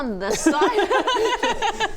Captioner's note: underperforming laughter